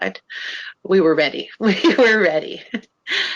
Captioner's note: laughs